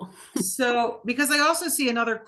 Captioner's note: laughing